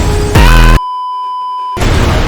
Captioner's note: beeeeeeeeeeeep